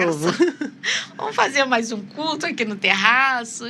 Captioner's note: risadas